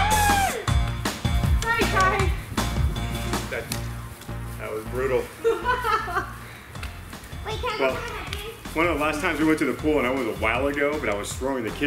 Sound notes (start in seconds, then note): 1.1 cheerful music; 5.3 laughing